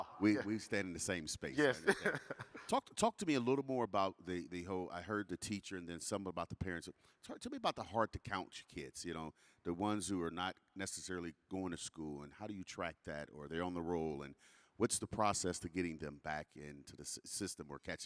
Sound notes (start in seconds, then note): 1.6 laughing